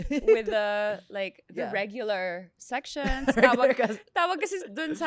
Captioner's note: laughs